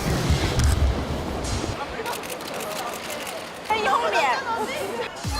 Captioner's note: good morning to morning cannon shutter sounds~